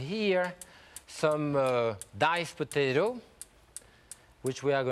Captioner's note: stove clicking